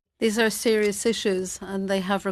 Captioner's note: speaking French